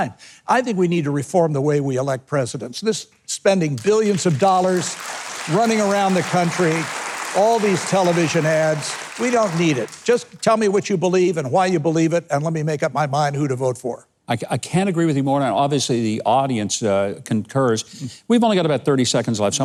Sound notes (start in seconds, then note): 3.7 audience applauding